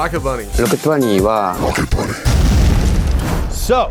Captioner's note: speaking in foreign language